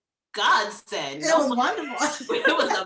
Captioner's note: laughs